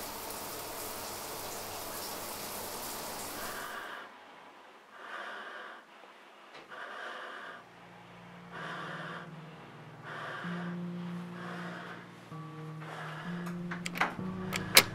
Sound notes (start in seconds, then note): 3.4 ventilated breathing